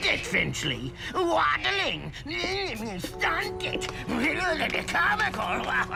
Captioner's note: mocking gibberish